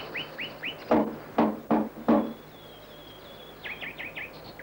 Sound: knock, knock, knock

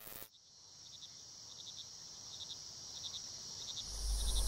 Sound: insects chirping

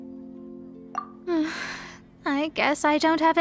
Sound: sigh

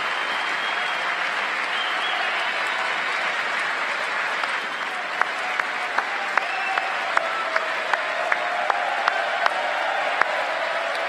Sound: cheers and applause; applause

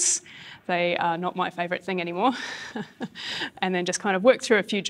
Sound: laughs

